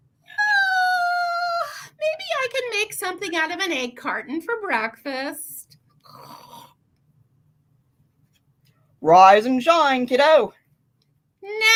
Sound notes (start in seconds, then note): 0.3 yawns; 6.0 snoring